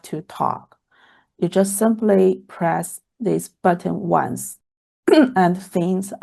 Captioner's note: clears throat